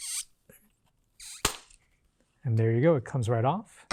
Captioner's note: plant squeaking